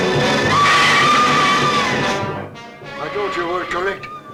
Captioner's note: screaming